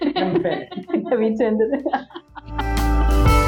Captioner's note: laugh